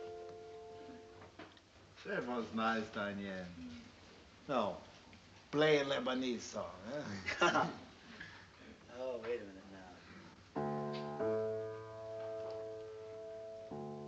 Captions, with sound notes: That was nice, Danyon. Now, play a Lebanese song, huh? [LAUGHS] Oh. Wait a minute now. [PLAYING PIANO]